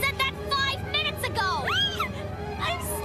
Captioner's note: shriek